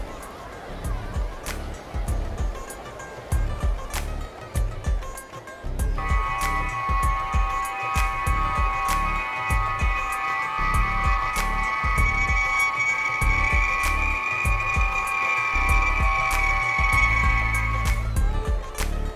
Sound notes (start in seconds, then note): 6.0 transporter sound